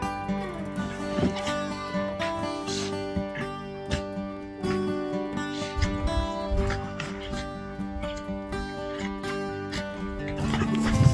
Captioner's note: dogs playing and music